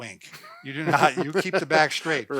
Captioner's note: laughing